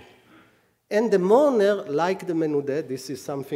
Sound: speaking hebrew

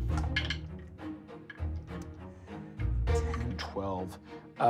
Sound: rolling dice

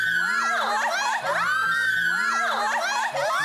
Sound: ahhhhh

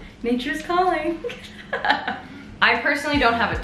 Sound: laughs

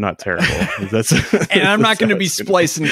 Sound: laughing

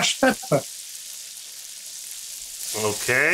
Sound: bacon sizzling

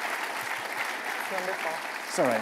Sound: applause

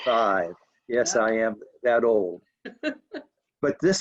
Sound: laughing

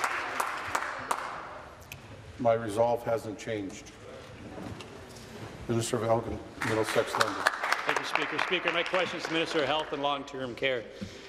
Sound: applause

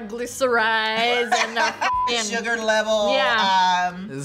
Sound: laughs

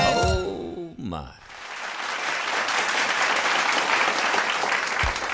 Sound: applause

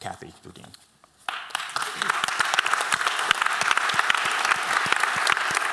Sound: applause

